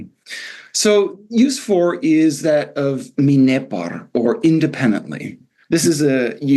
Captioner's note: non-english